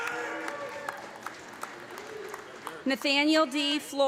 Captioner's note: applause